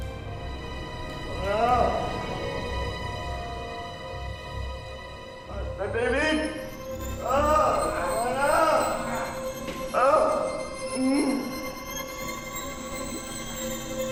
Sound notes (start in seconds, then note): 7.2 grunts; 9.7 grunts, groans; 12.2 dark music playing